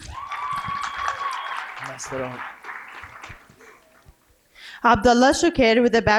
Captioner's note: cheering and applause